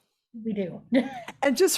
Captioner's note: laughing